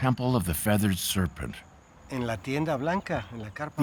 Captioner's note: speaking Spanish